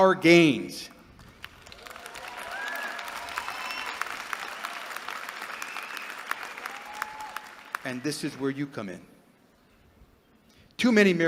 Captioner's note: applause